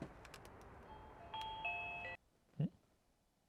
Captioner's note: doorbell rings